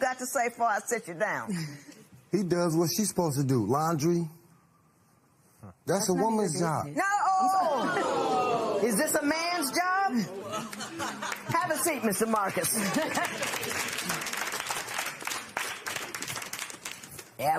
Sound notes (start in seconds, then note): 7.7 audience oh's; 10.2 laughter; 12.2 applause